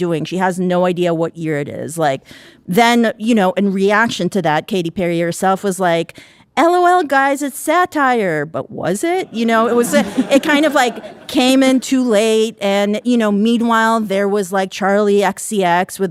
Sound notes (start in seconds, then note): 9.2 audience laughing